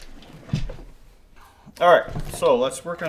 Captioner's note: case thudding